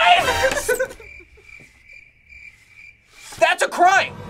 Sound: laughs; crickets chirping

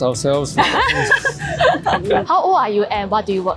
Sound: laughing

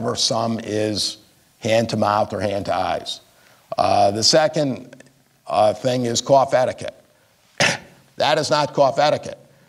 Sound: coughs

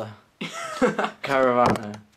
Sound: laughs

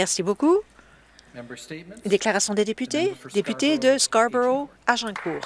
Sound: some applause

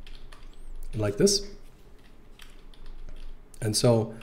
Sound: typing sounds

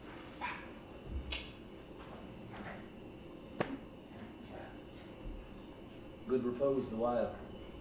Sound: clicks tongue

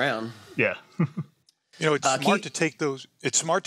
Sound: chuckles

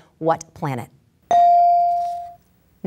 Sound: ding

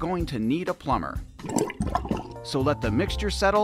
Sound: bubbles

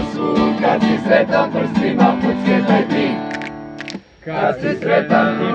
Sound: snap, snap

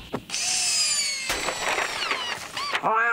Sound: drill Revving

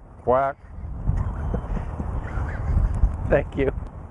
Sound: both laughing

